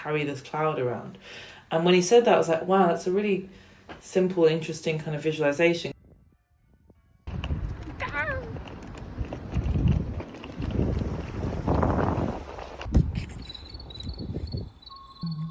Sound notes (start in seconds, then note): 6.2 very distant bells; 7.5 clunk; 8.0 vocal noise; 9.4 walking sound; 10.8 car approaches; 12.8 clunk; 13.6 eerie crickets; 15.2 female humming; 15.3 eerie crickets